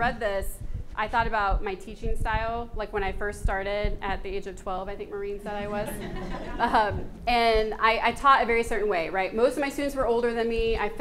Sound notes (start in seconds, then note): 5.6 audience laughs